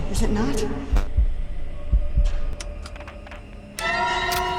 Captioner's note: heartbeat thumping; tense music; spine-tingling music